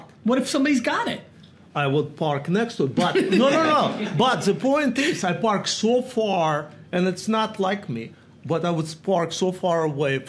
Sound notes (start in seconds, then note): 3.0 Gary laughs